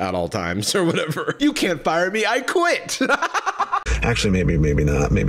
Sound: laughs

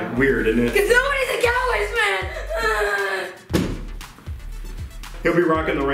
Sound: fake crying

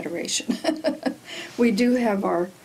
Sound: laughs

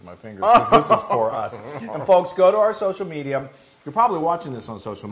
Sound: laugh

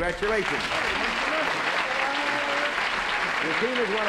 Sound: applause

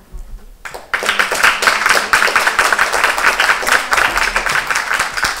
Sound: applause

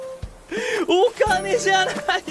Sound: inhales

